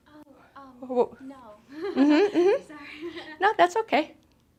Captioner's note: laughing